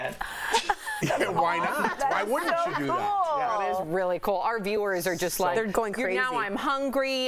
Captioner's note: laughter